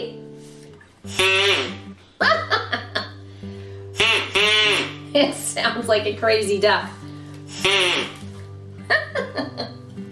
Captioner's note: quack!; quack! Quack!